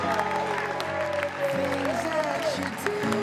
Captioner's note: cheering and Applause